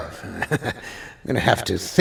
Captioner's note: laughs